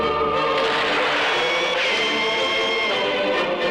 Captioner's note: gunshot